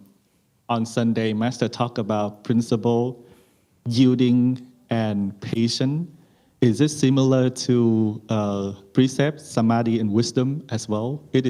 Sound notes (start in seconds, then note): none